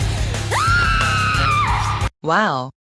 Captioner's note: screaming